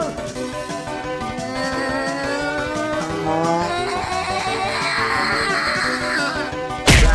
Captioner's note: Noo-Loo Yelling